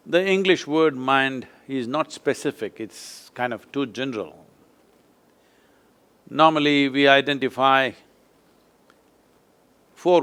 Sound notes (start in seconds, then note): none